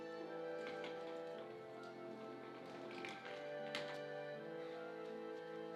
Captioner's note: suitcase shuffling